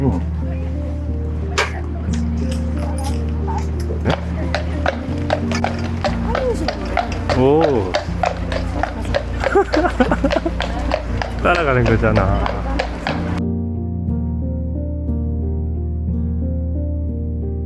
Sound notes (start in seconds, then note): 11.4 the sound of shoes